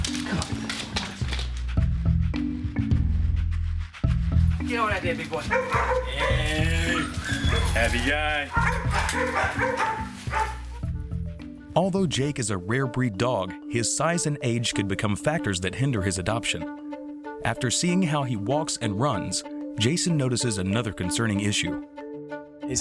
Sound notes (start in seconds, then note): 2.0 soft music; 4.4 dogs barking